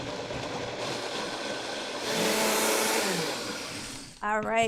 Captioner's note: loud whirring